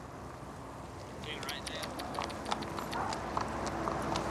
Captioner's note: clicks tongue